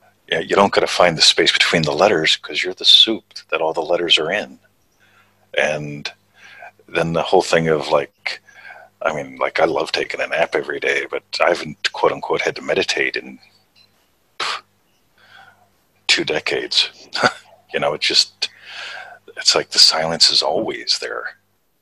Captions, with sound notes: Yeah, you don't gotta find the space between the letters, 'cause you're the soup that all the letters are in. And then the whole thing of like, I mean, like, I love taking a nap everyday, but I haven't "had to mediated" in (puffs) two decades (chuckles). You know it just, it's like the silence is always there.